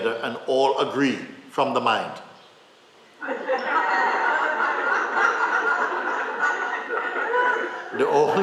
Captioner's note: laughter